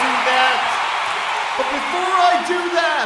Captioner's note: ecstatic applause, cheers